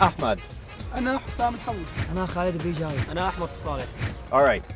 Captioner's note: speaking in Arabic